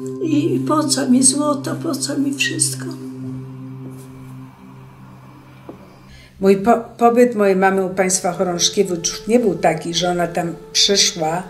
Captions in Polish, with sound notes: „I po co mi złoto, po co mi wszystko!” [ciche uderzenia w tle] Pobyt mojej mamy u państwa Chorążkiewiczów nie był taki, że ona tam przyszła